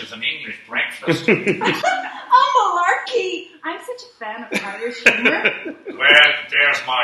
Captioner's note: simpers